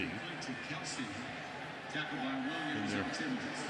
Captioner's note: pa announcement